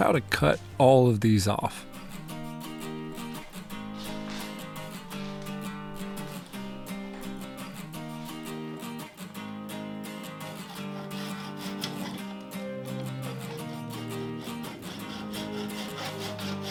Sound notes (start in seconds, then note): 2.2 dramatic music; 4.9 drill whirring; 12.7 dramatic music